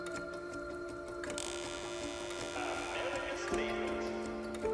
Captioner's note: door creaking